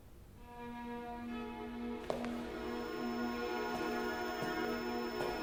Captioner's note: steps on wooden floor